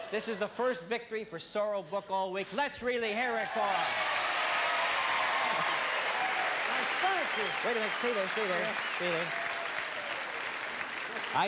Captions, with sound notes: This is the first victory for Sorrell Booke all week. Let's really hear it for him! [audience cheers] - Thank you. - Wait a minute, stay there, stay there.